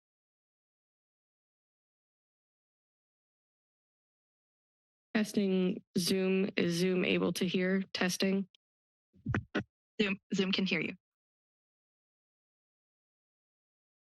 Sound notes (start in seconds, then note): 0.1 pause; 9.2 mic thuds; 11.2 pause